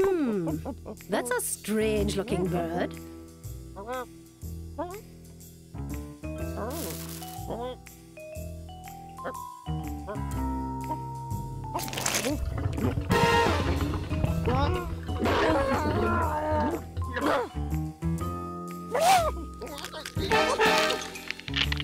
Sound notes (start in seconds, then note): 3.8 mutters; 15.3 whimpers; 18.9 exclaims